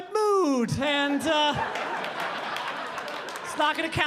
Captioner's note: audience laughing